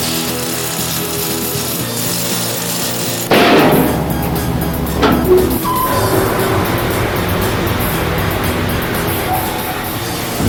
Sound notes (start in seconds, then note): 0.1 chains rattle; 7.0 comet sizzles